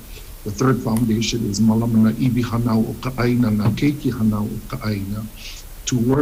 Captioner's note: speaks Hawaiian; speaks Hawaiian